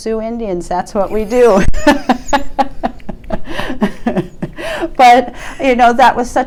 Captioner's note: laughs